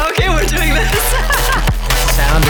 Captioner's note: laughing